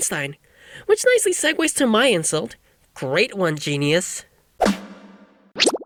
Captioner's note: sarcastically